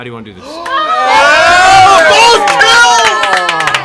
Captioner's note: cheering